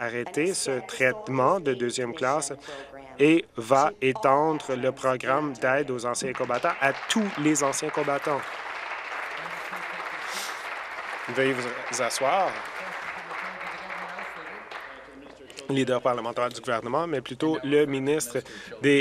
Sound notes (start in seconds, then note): 10.1 applause